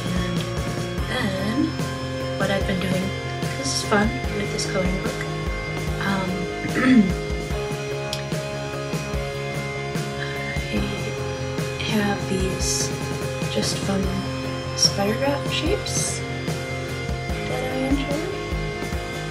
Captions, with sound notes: and then, what I've been doing this is fun, with this coloring book (ahem) I have these just fun sprirograph shapes that I enjoy